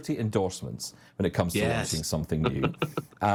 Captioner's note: chuckles